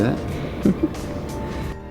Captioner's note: ha ha